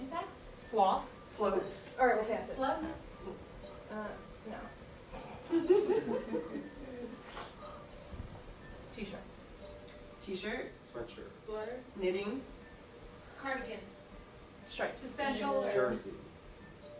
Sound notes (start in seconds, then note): 5.6 audience laughter